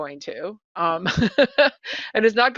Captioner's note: laughing